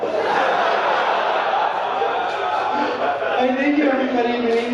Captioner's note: audience laughing